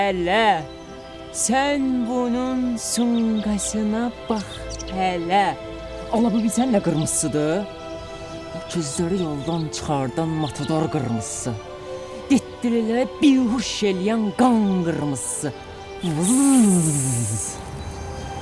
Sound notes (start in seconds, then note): 16.0 mosquitoe noise